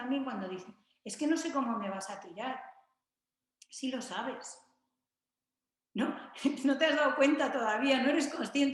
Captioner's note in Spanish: risas